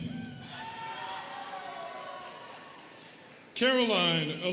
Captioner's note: students cheering